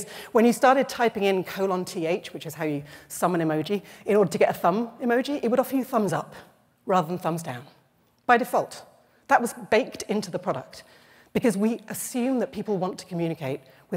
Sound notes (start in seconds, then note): none